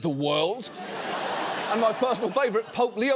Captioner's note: audience laughs